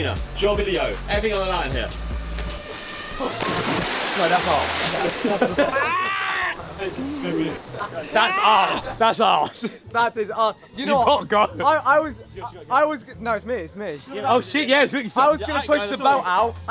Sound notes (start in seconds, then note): 2.5 waters splashing; 4.8 Sidemen laugh; 5.6 screams